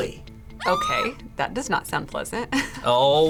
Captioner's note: woman screams